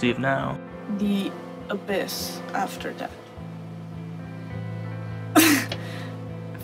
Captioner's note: laughs